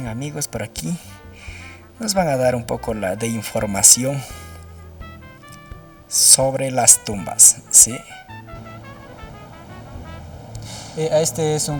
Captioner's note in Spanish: resoplido